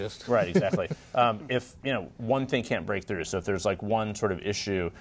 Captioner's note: laughter